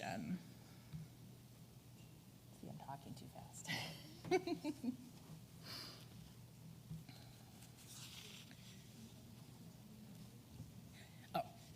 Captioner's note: background chatter